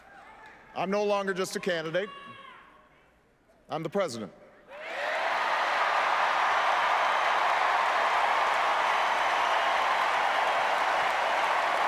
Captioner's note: applause